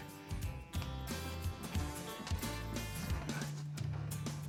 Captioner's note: laughs